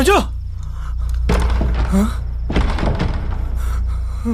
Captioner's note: door rattles